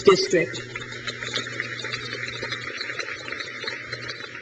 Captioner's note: crowd claps